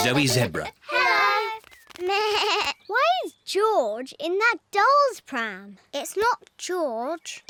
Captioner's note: bleats